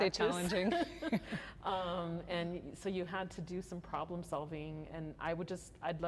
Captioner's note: laughter